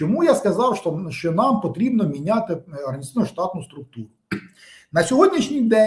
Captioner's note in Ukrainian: прочищення горла